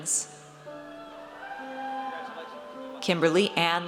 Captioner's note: audience cheers